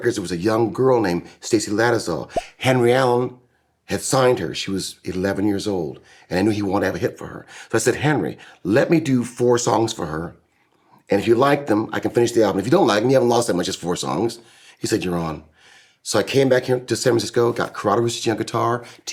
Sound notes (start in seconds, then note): none